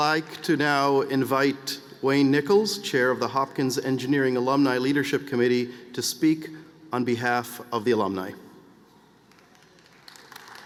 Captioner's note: applause